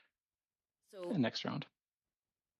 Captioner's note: speaking French